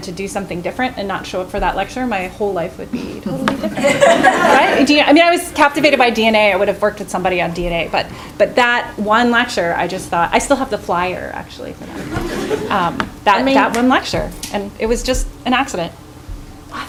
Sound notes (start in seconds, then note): 2.9 laughing; 11.8 chuckling